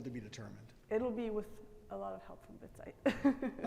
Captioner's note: giggles